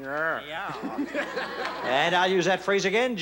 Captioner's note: laughs